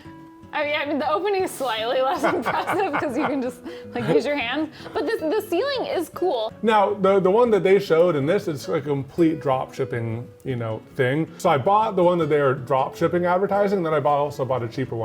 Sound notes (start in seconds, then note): 2.2 laughs